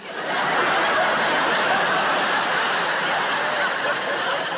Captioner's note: audience laughing